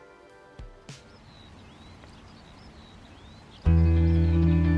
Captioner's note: birds singing; calm music